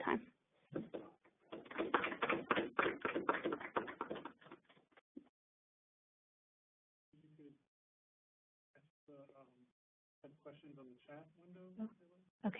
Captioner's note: clapping